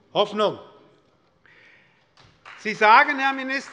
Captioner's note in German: Beifall bei Abgeordneten der SPD